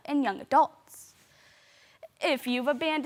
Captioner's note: soft breathing